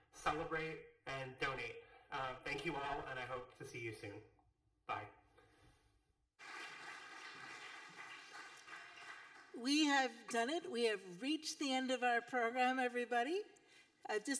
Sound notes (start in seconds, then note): 6.4 audience applauding